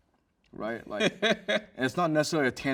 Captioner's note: host chuckles